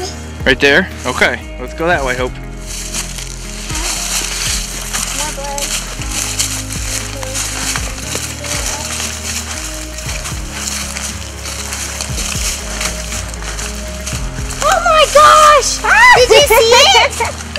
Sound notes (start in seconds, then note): 2.5 sound of walking